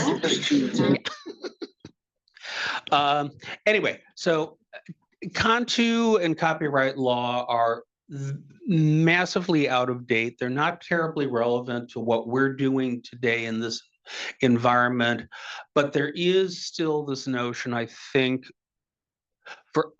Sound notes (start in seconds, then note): 2.5 laughing; 2.5 attendees chattering